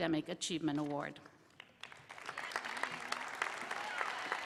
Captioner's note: applause